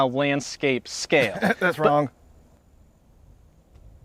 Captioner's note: coughs